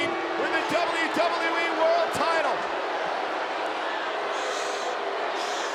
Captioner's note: crowd boos